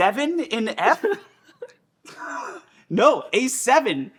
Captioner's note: laughing